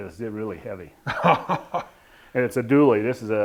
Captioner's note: laughing